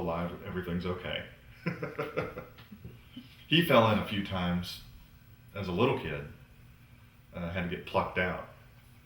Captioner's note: laughs